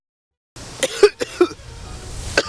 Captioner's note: coughing